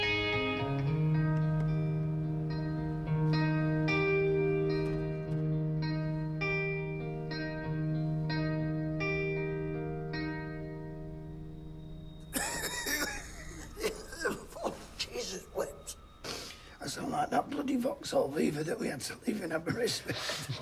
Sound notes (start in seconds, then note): 12.3 coughing